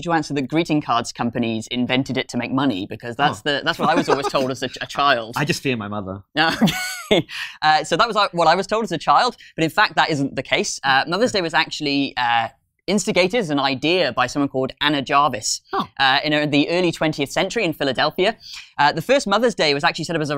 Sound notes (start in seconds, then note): 3.8 laughs